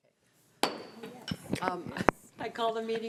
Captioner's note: gavel banging